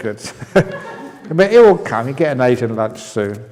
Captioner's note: laughs